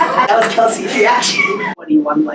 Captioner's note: laughing